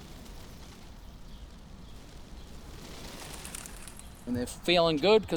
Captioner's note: wings fluttering